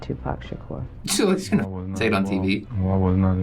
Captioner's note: scoffs